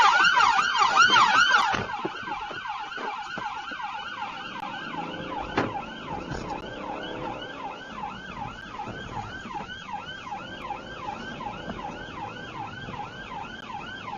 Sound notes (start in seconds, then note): 1.4 car door opens and closes; 3.9 engine accelerates; 6.0 police car siren; 8.9 engine accelerates